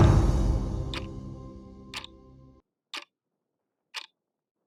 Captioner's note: timer clicking